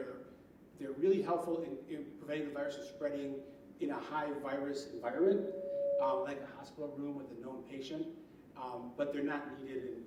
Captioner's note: mic feedback